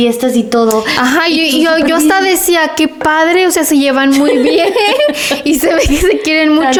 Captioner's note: laughs